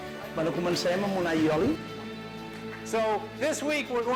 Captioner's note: speaking spanish